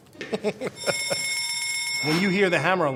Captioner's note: laughing; alarm ringing